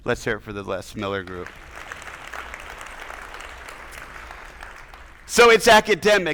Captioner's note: attendees applauding